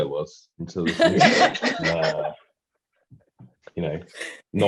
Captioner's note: all laughing